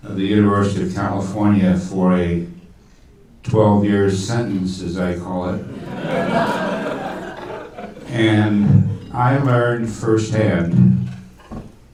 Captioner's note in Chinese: 听众笑